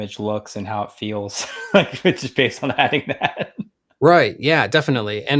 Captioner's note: laughs